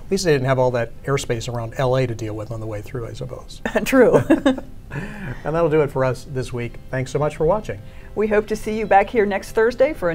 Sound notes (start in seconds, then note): 4.0 laughing